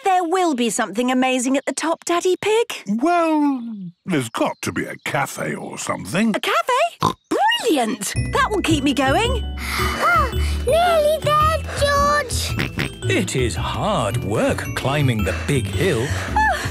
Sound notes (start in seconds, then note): 7.0 snorts; 11.5 panting; 12.4 snorts